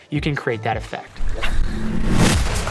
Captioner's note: dramatic music; fishing rod casting